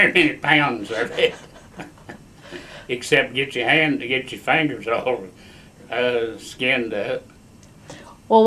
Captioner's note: laughs